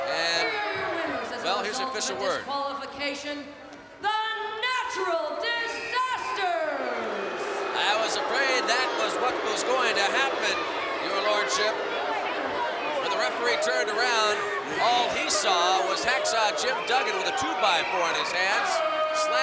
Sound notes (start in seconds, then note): 7.1 crowd booing